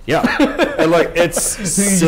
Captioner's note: laughter